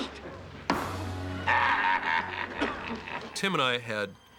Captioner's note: chuckling